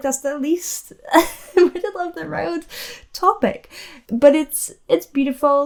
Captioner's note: chuckles